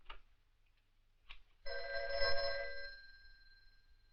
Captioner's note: phone rings